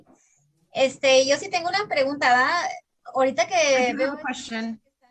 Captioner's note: speaking in Spanish